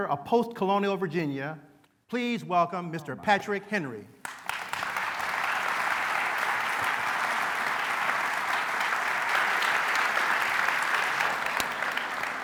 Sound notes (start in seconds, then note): 4.2 applause